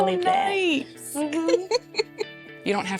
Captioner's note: laughing